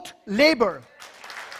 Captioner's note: applause